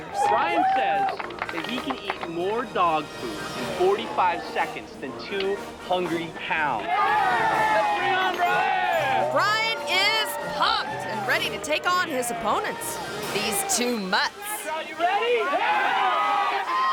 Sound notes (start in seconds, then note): 0.0 crowd cheering; 6.7 people cheering; 15.5 crowd cheering